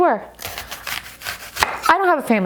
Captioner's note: knife cutting